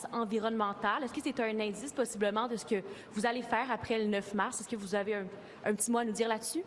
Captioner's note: speaking French